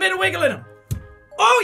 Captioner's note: pop